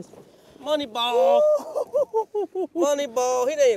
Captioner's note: laughs